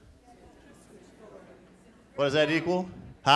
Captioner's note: crowd chattering